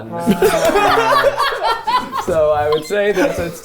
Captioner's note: laughing